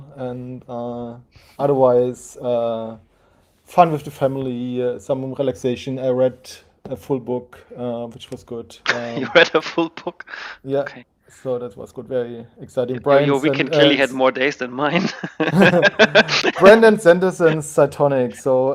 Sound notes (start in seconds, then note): 8.9 laughing; 14.8 laughing